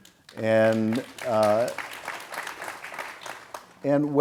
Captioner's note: audience applauds